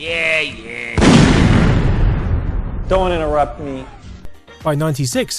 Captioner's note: boom